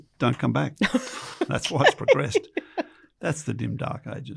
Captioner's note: laughs